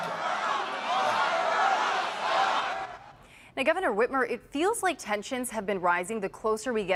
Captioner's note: cheering; chanting vote her out